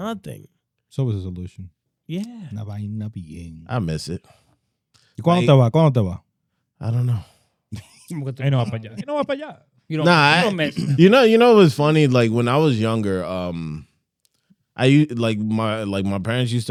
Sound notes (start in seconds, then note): 3.5 speaking In Foreign Language; 6.2 speaking In Foreign Language; 9.5 speaking In Foreign Language; 10.0 laughing